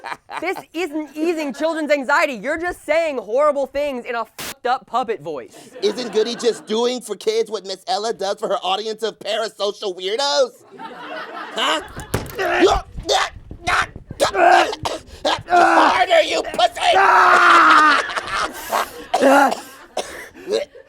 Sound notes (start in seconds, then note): 14.2 choking; 17.2 coughing